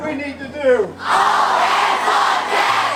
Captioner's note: yells